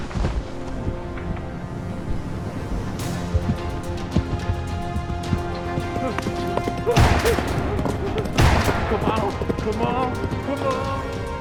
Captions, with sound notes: [gunfire ricocheting] Come on, come on, come on!